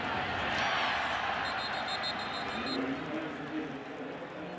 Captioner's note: whistle blowing